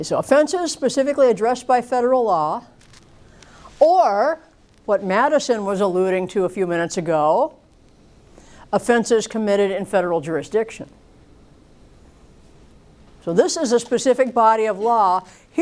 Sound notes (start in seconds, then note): none